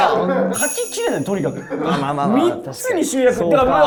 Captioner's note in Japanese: スタッフ：笑い